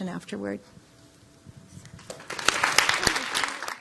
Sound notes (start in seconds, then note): 2.1 applause